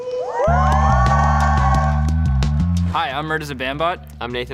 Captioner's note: audience cheers